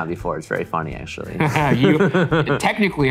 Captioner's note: laughs